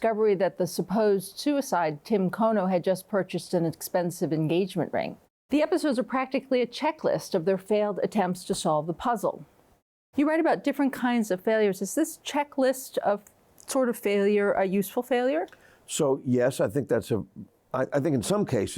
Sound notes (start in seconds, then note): none